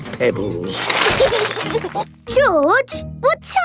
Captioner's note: laughing